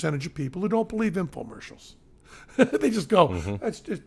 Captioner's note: chuckles